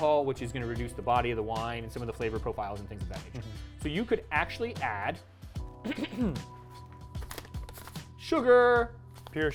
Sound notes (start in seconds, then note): 5.8 clears throat